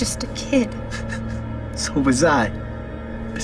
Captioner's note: chuckles